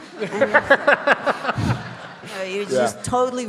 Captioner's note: audience laughing